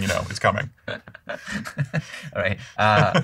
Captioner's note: laughter